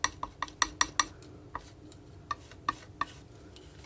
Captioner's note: tapping on paint